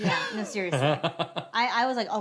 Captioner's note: laughs